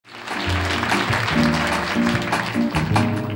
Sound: audience applauding

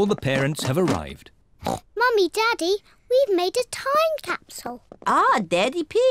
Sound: oinks

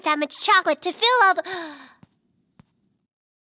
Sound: gasps

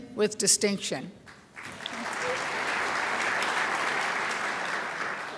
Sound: crowd applauds

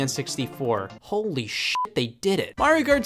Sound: beep

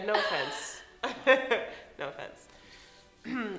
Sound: laughs

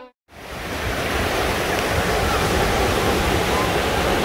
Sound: classical violin music; waves burbling

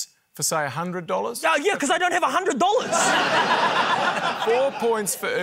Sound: laughter

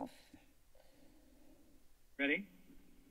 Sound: silence

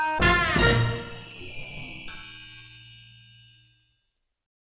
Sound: chime

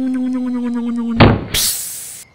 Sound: electric motor hum; thud; hiss

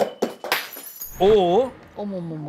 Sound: clinking

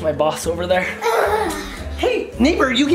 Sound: sighs heavily

